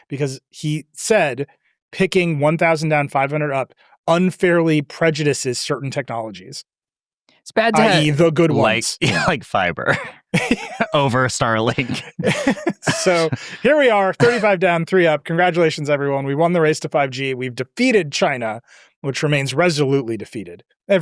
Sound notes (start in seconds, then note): 9.7 chuckles; 11.4 laughs